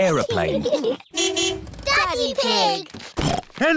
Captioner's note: horn honks